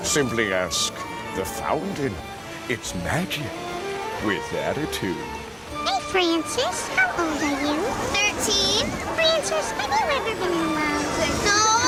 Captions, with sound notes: Simply ask the fountain. Its magic with attitude. - [Fountain] Hey, Francis, how old are you? - 13. - [Fountain] Francis, have you ever been in love? - No.